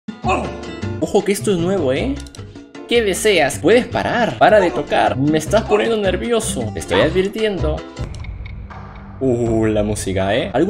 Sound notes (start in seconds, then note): 0.2 shout; 7.9 creepy music